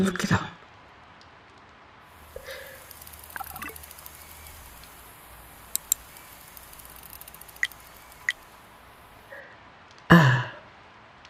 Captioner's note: whirring and interfacing noises